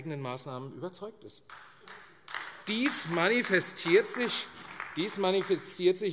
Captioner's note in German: Beifall AfD